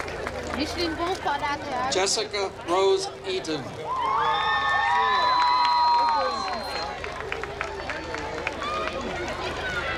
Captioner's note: applause